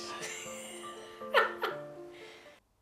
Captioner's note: laughs